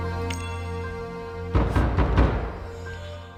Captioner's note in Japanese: 激しく扉を叩く音